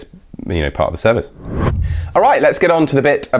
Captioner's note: whooshing